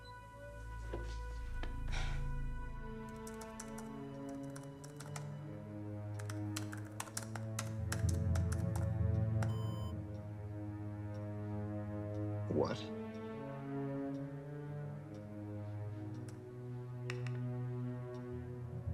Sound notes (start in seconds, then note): 0.6 footstep; 7.9 clap; 10.0 bowed string instrument; 13.7 bowed string instrument